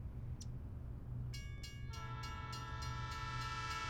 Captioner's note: train crossing clanging; train horn blows